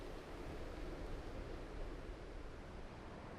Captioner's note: soft wind blowing